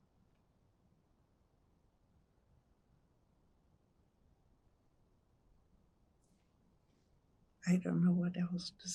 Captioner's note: pauses 8 seconds